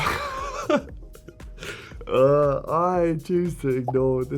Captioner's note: Harry laughing; laughing